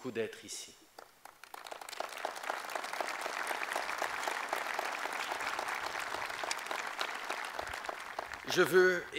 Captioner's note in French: Applaudissements